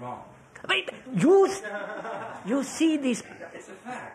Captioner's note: laughter